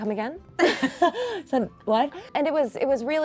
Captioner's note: laughs